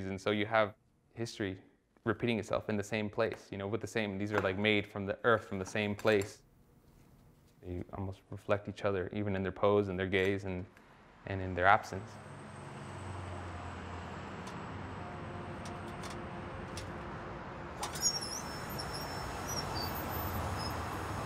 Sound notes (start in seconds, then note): 12.7 cars driving at distance; 18.1 machine whirring